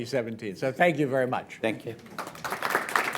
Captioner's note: applause